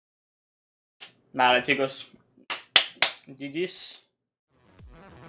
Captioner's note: claps